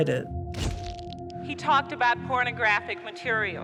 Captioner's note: shutter clicks